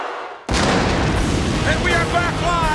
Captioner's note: pyrotechnics exploding